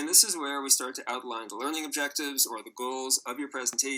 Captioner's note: recording plays